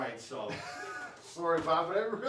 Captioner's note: laughs